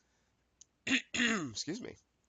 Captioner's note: coughs